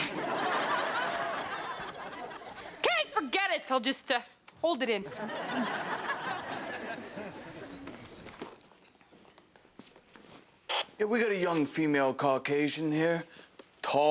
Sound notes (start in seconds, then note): 0.0 audience laughs; 5.1 audience laughs; 10.7 radio crackles